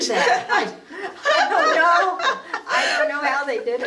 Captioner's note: laughing